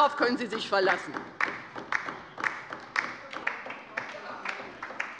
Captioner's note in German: Beifall bei der LINKEN